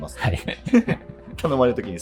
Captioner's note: laughing